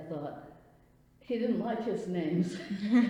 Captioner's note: laughs